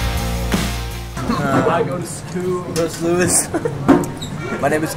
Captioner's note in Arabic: موسيقى إيقاعية مشرقة; يضحك